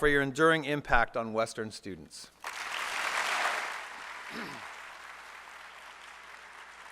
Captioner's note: applause